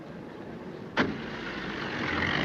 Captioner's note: car engine rumbling; car door thudding